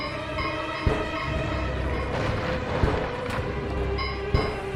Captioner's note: zombies banging